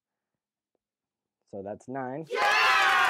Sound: crowd Cheers

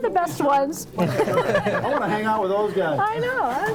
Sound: board members laughing

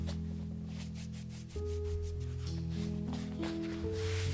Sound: brush bristles brush away flour

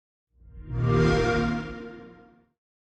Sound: xbox whoosh

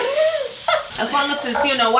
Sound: laughs

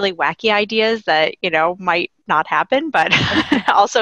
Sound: laughing

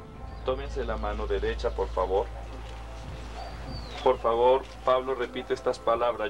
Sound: person speaking in foreign language

